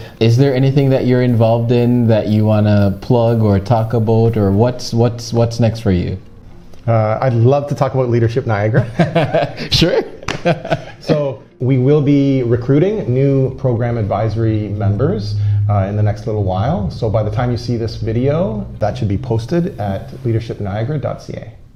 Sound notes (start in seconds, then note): 8.8 laughs